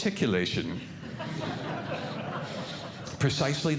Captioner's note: audience Laughing